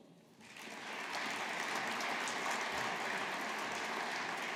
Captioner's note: audience applauding